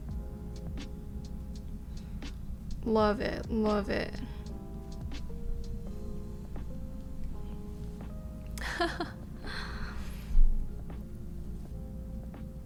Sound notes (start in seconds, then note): 8.6 laughing